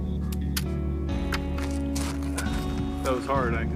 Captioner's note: camera clicks